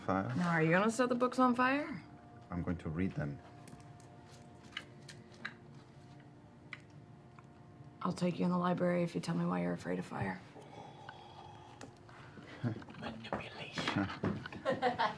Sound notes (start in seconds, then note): 11.0 whispering